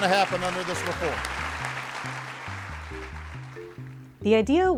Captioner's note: attendees applaud; intriguing music